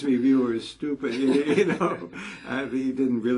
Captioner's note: laugh